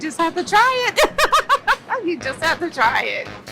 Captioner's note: laughs